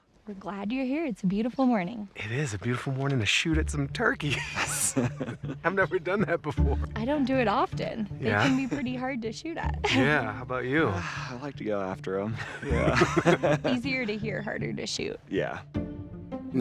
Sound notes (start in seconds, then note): 4.2 laughs; 12.1 both laugh